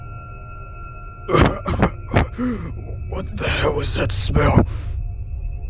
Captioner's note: violently Coughs and gags